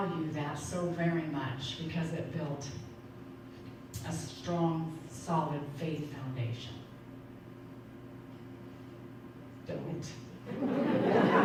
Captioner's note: audience laughing